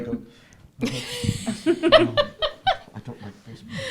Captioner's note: laughs